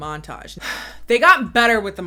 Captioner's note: sighing